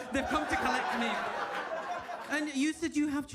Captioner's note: audience laughs